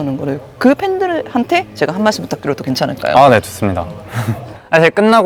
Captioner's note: laughs